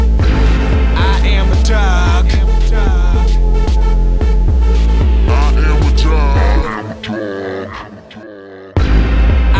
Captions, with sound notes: I am a dog. [low voice] I am a dog, [very low voice]I am a dog.